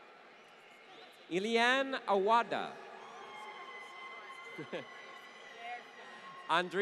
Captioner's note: laughter